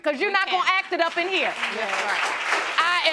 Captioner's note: audience applauding